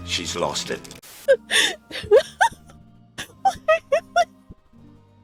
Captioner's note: laughs